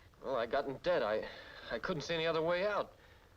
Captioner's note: none